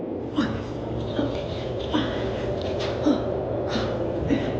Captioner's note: Luna grunting